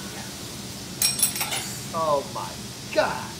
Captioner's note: clinking